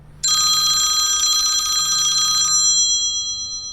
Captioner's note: phone rings